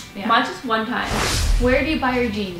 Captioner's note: rush of air